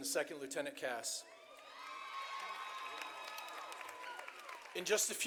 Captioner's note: audience applauding